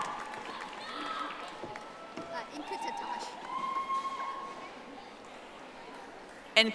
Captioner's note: audience applauding